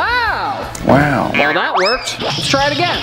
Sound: Owen Wilson Voice

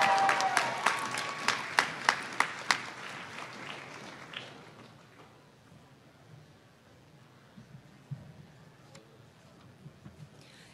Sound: applause

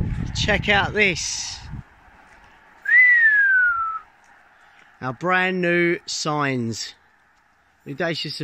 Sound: whistle

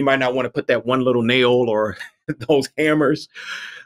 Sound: laughs

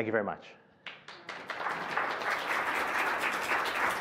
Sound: applause

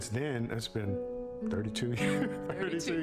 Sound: laughter

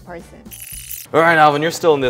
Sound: high-pitched whirring

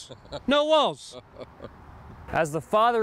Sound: chuckling

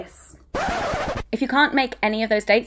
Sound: record scratching

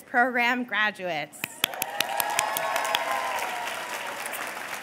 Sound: cheers and applause

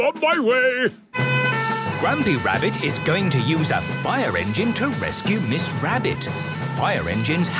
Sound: sirens

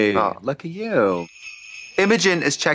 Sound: sleigh bells jingling

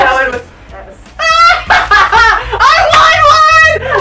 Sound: laughter

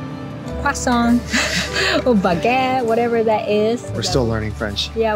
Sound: french dialect

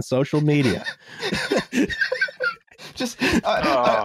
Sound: laughter

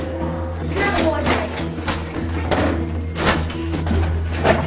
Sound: basketball shooting

